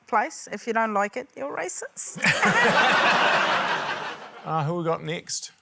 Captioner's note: laughter